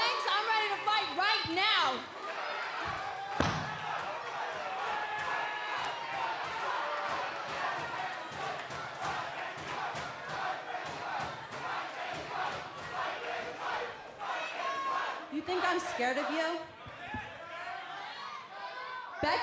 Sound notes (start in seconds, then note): 5.2 fans chanting